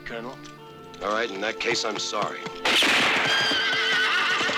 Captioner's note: horse neighing